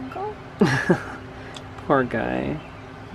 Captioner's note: chuckling